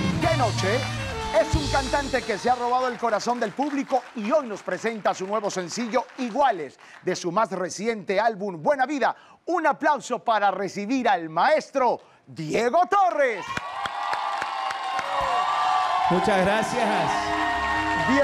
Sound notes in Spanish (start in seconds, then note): 13.0 Ovación